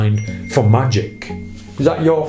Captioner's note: phone dinging